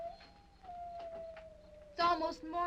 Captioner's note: insects chirping; wolves howling